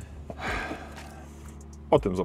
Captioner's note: joyful sigh of success